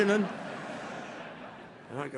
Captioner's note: laughter